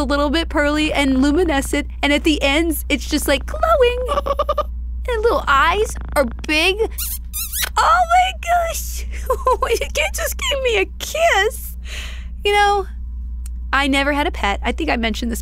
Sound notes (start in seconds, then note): 6.8 laughs